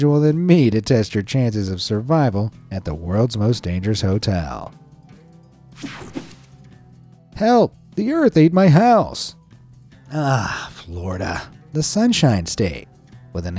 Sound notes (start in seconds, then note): 5.8 screen whooshing